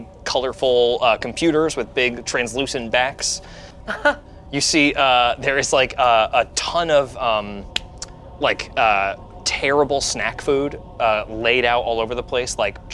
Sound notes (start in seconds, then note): 3.8 chuckles